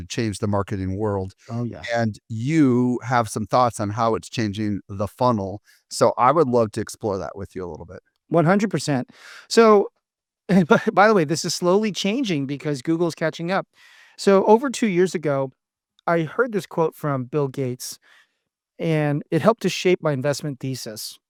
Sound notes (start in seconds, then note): 10.7 laughs